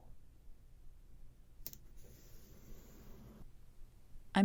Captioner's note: tape placement snap and smoothing sound